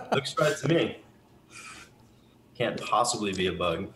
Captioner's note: laughs